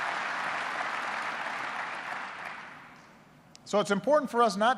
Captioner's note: applause